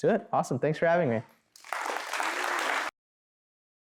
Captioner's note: applause